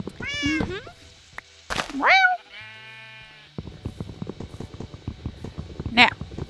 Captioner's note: cats meow and meows in response